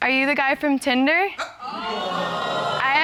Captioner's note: audience exclaims